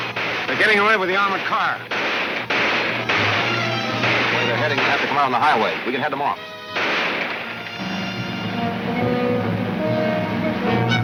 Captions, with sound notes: - They're getting away with the armored car. (guns firing) - The way they're heading they have to go out on the highway. We can head them off. (dramatic orchestra music)